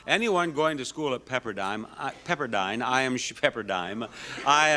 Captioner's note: chuckles